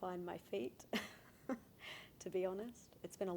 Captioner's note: laughing